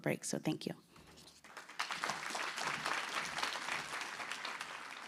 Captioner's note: applause